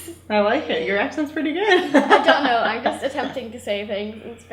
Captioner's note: laughs